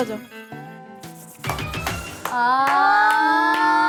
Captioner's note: clapping